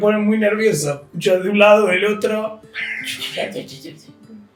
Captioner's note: chatter